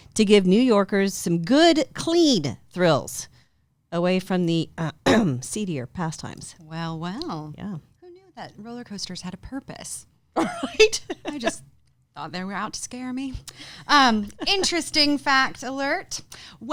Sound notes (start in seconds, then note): 5.1 clears throat; 10.4 giggles